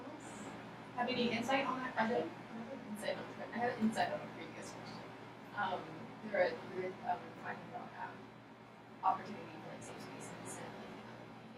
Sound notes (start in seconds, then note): 6.9 speaking softly